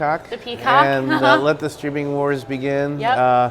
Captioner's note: laugh